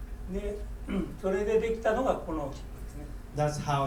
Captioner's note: speaking in foreign language